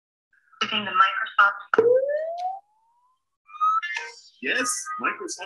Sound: electronic warbling

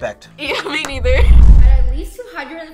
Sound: laughs

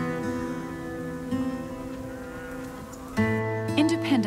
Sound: cattle mooing

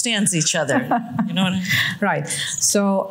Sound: laughs

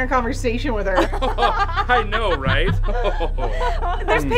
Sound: laughter

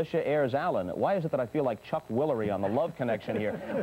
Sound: chuckles heard from off screen

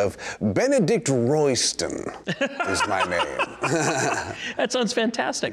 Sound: laughing

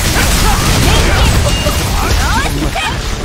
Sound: stomping

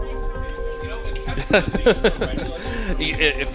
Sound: man laughs

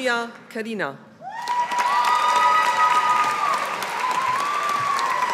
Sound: audience applauding

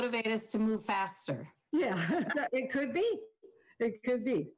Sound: chuckles

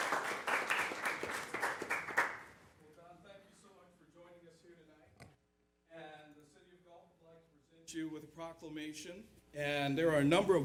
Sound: applause

